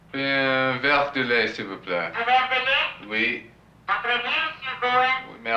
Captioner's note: speaking french; speaking french